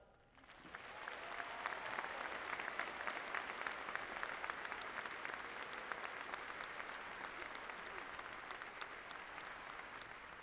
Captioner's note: applause